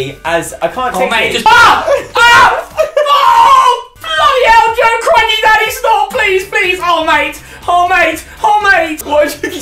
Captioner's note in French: cri